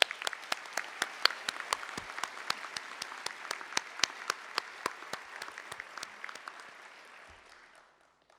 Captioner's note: applause